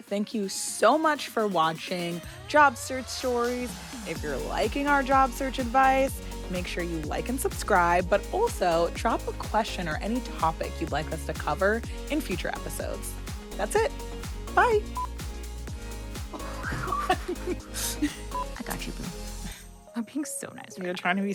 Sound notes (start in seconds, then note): 16.3 both laugh